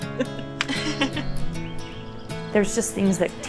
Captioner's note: laughing; lighthearted guitar music